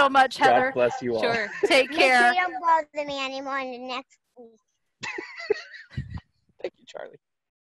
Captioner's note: laughter